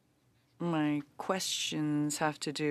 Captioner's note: speaking French